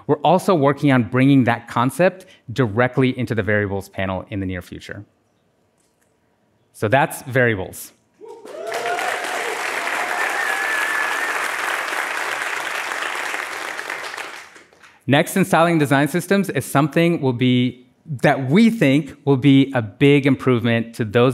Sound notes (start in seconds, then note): 12.2 applause